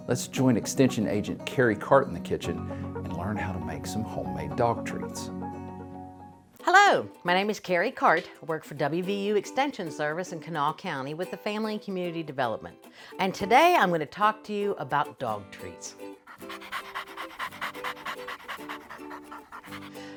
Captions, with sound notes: let's join extension agent Kerri Carte in the kitchen and learn how to make some homemade dog treats. - Hello, my name is Kerri Carte. I work for WVU Extension Service in Kanawha County with a family and community development. And today I'm gonna talk to you about dog treats. (dog panting)